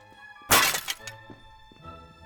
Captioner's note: shatter